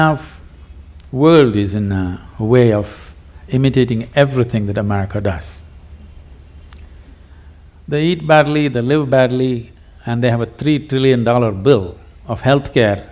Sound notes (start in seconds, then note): none